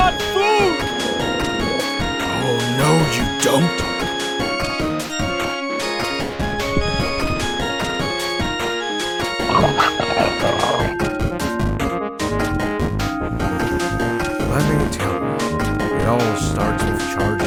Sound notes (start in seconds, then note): 13.3 WraithNado inhaling deeply as his disintegrating breath charges up